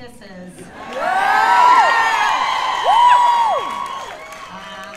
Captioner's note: cheers and applause